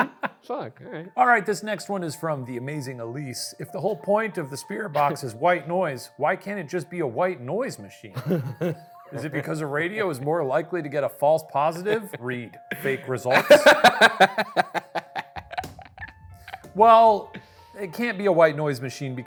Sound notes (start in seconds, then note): 8.1 laughing; 13.3 laughing; 15.3 palm thumping